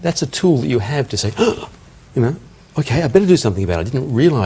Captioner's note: gasps